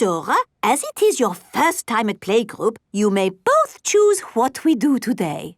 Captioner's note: none